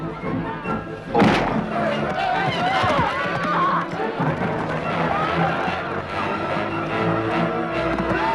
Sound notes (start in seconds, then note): 1.0 pot shatters; 2.3 townsfolk clamoring